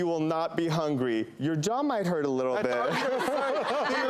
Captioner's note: laughter